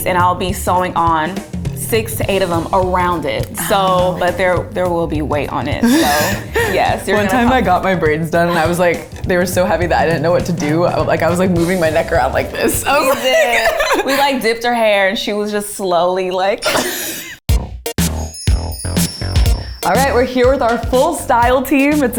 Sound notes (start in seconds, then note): 5.8 laughs; 12.7 laughs; 16.8 both laugh; 17.5 upbeat music plays